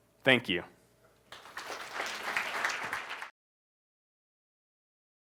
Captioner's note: applause